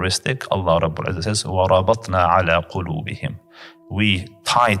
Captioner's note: Arabic